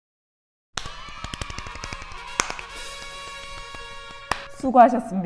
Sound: clap

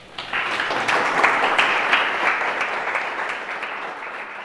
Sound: audience applauding

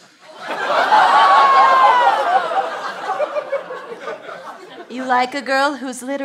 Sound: audience oh's

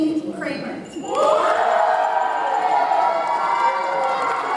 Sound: audience cheers

